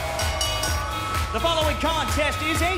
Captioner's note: bell ringing